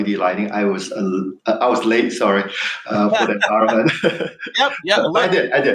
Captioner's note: laughs